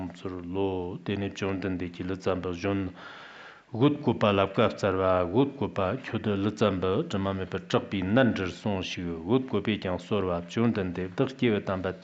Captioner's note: giving oral transmission in Tibetan